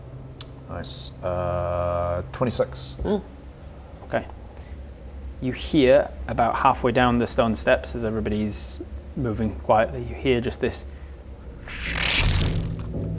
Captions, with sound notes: Nice. 26. Mm. Okay. You hear about halfway down the stone steps as everybody's moving quietly you hear just this... *magical noises*